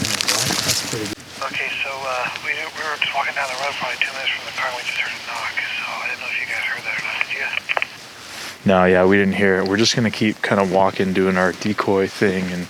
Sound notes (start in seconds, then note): 2.0 over walkie